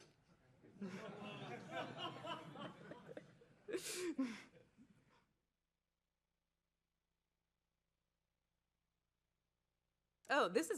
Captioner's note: laughter